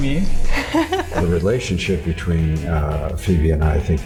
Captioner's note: laughs